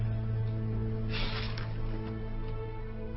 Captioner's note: sighing